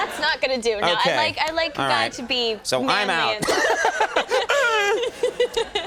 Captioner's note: laughs